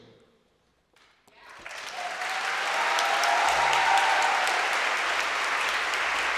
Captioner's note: audience cheering and applauding